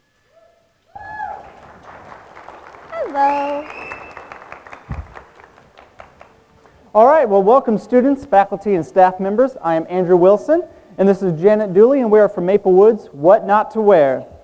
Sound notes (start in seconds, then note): 1.0 audience clapping and cheering